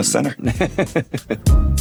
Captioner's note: laughing